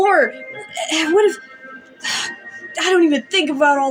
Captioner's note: sigh